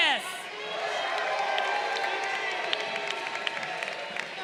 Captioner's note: crowd cheering